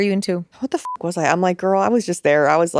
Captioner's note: beep